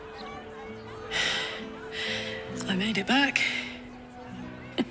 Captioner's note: sighs